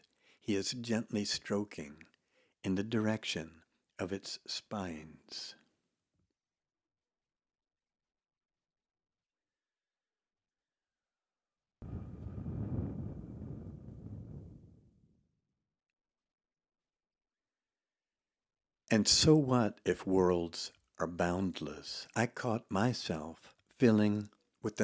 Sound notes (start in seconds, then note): 11.8 air humming